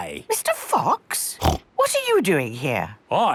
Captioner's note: snorts